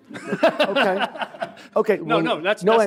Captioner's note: laughs